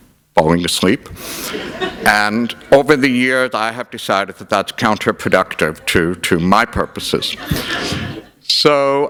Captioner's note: laughter; laughter